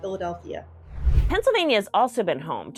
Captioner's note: computer whooshing